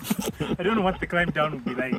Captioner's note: merciless laugh